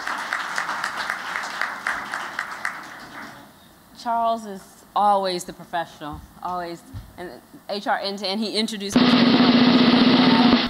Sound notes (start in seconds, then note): 3.2 �applause�; 8.9 drum roll